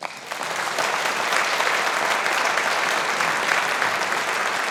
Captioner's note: audience applauding